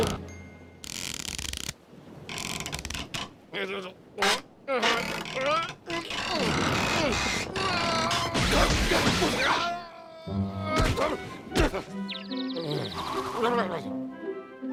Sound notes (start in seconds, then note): 2.1 board creaks; 4.8 muttering and straining; 10.6 grunts; 11.9 birds tweeting; 13.4 mutters